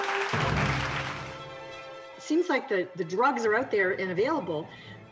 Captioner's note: audience applauds